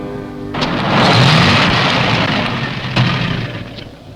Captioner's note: pleasant piano music; engine rumbling